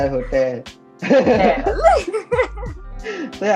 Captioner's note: both laugh